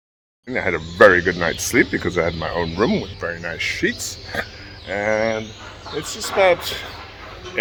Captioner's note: laughter